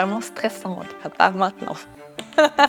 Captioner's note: laughs